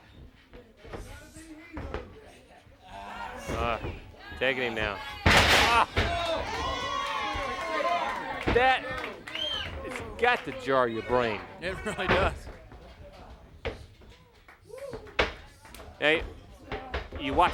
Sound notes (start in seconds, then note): 7.7 crowd chatter; 11.6 crowd cheering